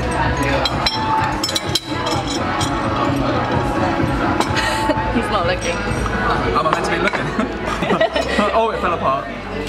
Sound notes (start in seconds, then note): 7.3 laughs